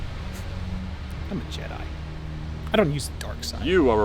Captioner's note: scoffs